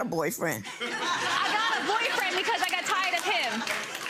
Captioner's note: audience laughing